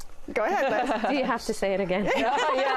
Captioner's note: laughter